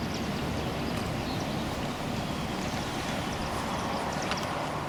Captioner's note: birds chirping